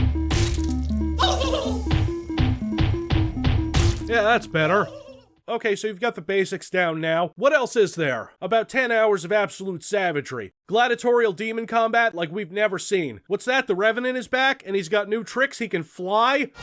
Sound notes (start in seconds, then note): 1.2 turkey Gobbling